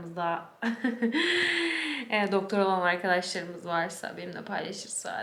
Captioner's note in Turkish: kahkaha